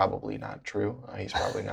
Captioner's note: laughter